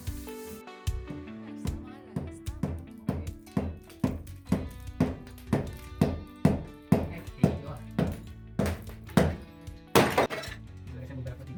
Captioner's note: hammering